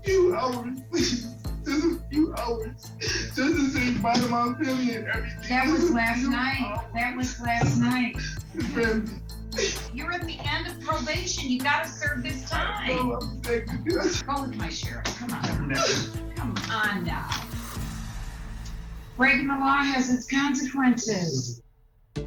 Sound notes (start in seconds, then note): 14.9 sobbing indistinctly; 15.5 whimpering